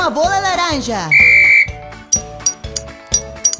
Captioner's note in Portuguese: Som de apito